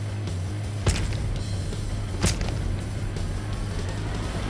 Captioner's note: thuds